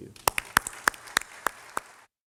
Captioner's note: applause